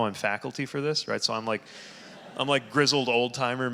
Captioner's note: audience laughing